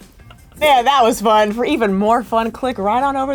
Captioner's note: whoosh sound